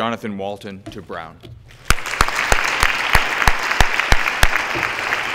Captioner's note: applause